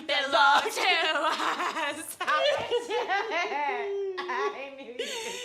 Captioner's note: laughing, cheerful